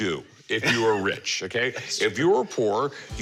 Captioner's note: chuckles